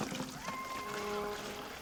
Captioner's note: animal howling